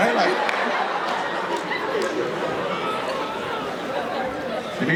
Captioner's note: audience laughing